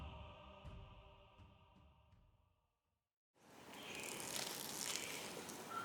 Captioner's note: rattling of iguana's tail